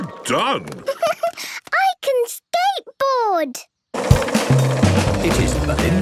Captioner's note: giggles